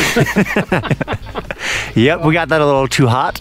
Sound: both chuckling

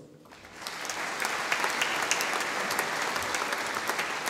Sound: audience applauding

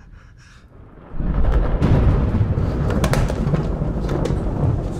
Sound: lightning cracks

